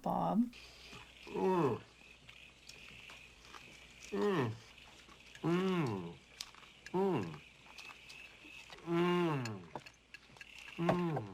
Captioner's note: obnoxiously loud nummy noises